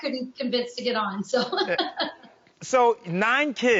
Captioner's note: laughs